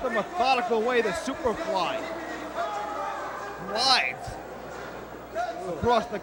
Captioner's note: crowd chatter